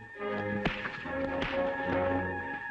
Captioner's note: punches